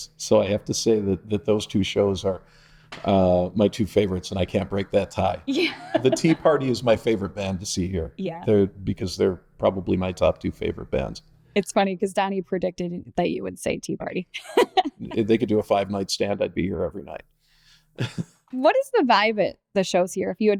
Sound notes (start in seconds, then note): 5.6 laughing; 14.4 laughing; 18.0 laughing